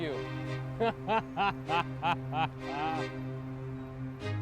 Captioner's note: laughing